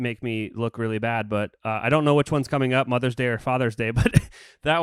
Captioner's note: laughs